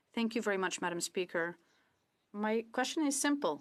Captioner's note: speaking French